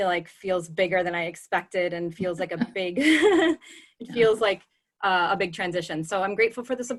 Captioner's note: laughter